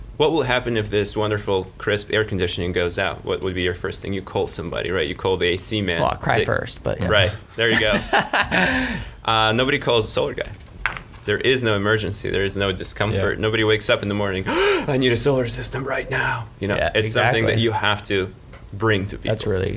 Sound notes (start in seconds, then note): 7.5 laughing; 14.4 gasping